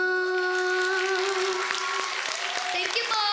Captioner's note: applause, cheering